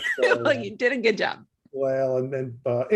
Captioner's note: laughing